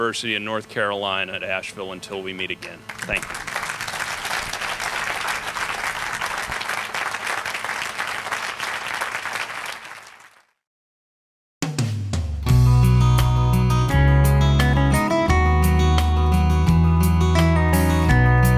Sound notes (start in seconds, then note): 2.8 applause; 11.5 closing music